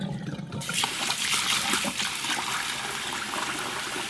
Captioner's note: water running